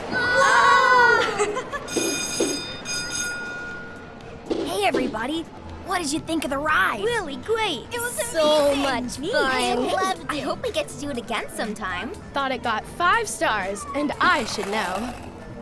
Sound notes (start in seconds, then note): 1.2 Spark giggling; 1.8 bell ringing